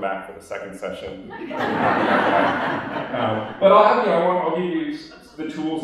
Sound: laughter

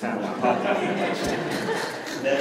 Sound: laughter

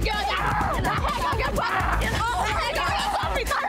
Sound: yelling

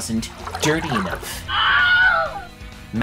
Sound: man screaming

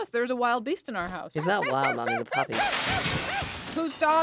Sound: crash

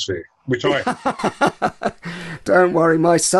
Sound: laughter

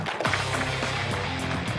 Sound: applause

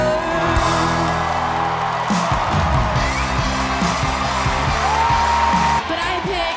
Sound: cheers and applause

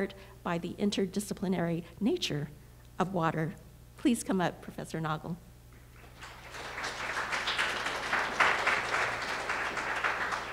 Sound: applause

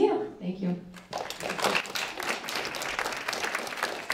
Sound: applause

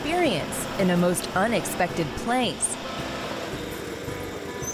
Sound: engine purrs; machinery squeaks

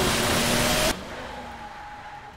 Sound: tires screeching

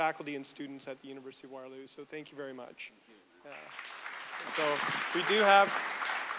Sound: audience applause

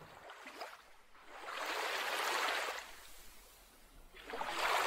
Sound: water sloshing

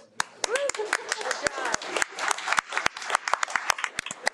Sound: audience applauding

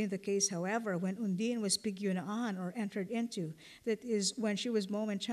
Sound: non-english

